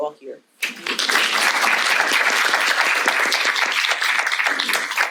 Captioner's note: audience applauding